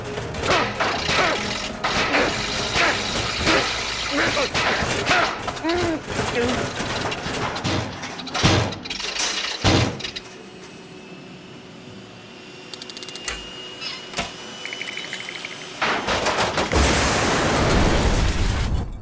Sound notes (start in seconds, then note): 7.3 heater sputters; 9.6 thuds; 10.0 heater humming; 14.7 teeth chattering; 16.2 rattling